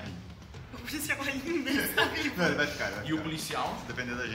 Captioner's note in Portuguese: risos